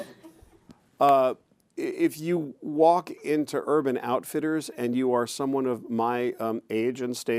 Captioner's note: chuckles